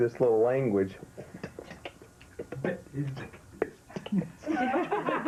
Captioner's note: tongue clicking